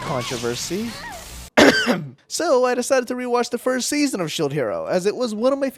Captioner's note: ahem